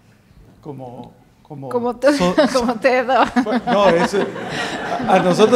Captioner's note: laughs